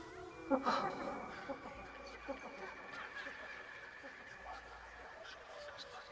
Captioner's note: Ally gasps; creepy laughing